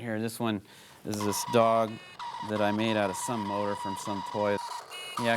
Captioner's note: barking, horn honking